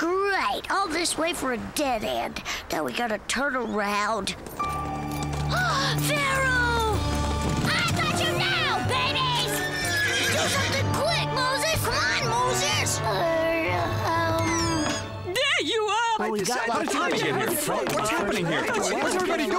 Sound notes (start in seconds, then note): 5.6 gasps